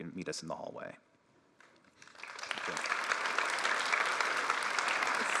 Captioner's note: applause